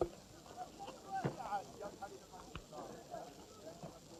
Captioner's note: people chattering